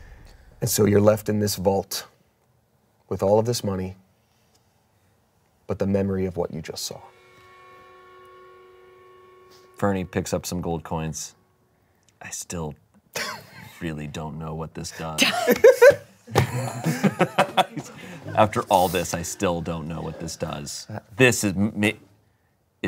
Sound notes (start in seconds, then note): 16.3 everyone laughs